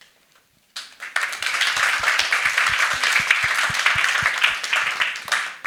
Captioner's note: attendees applauding